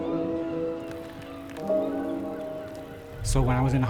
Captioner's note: seagulls cawing; bike chain clicking